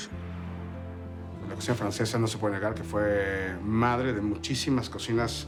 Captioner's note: in Spanish